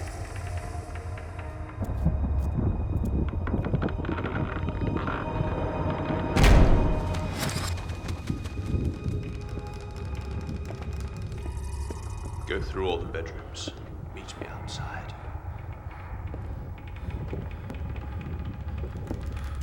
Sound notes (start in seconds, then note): 13.3 eerie sounds